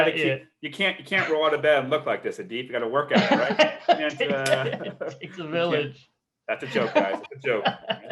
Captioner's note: laughing